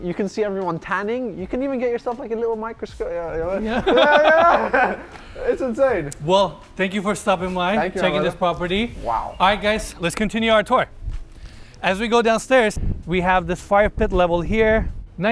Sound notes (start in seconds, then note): 3.6 laughs